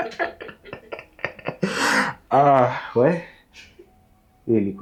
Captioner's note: laughs